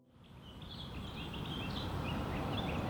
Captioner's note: birds chirpping